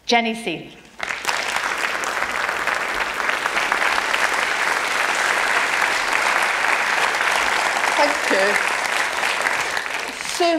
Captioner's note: applause